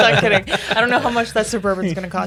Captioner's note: all laughing